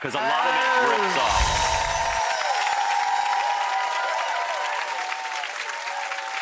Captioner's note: applause